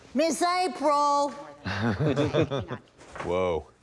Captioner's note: laughter